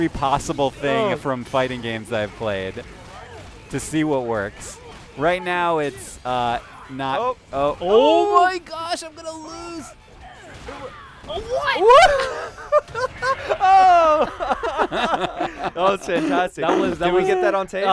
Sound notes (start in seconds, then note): 11.9 laughter